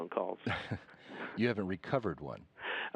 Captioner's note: chuckle